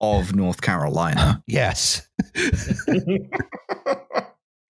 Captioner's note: laughter